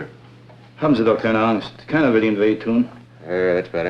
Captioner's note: speaking German